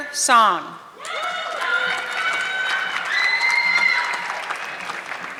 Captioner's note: audience clapping